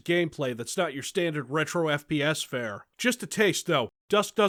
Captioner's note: none